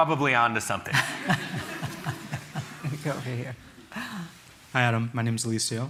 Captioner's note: chuckles